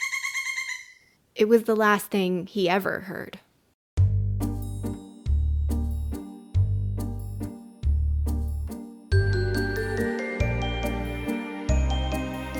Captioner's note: the same bird call repeats a final time